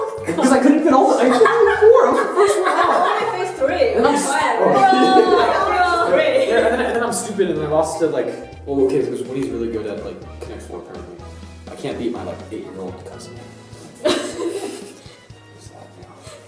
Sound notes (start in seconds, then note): 4.1 laughter; 13.9 laughter